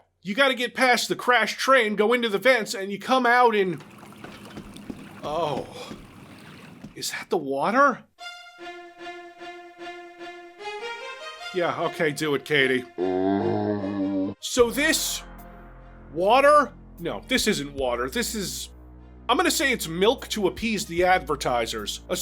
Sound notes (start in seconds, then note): 12.9 zombie groan